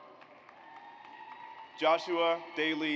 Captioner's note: audience applauds